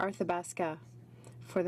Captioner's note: speaking French